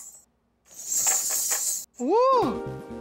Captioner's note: anklets jingling